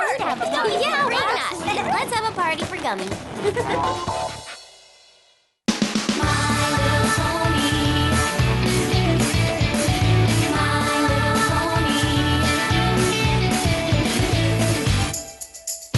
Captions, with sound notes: We must have a party. Let's have a party for Gummy. [ Laughter ]